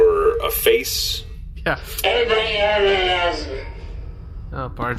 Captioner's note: slurring and raspy